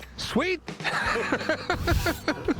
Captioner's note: laughs